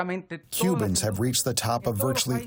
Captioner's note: through translator